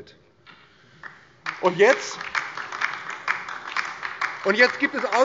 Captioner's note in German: Beifall DIE LINKE